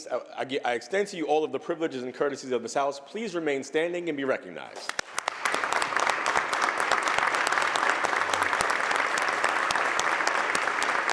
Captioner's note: applause